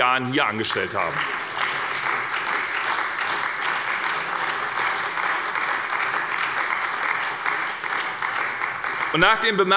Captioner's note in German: Beifall bei der SPD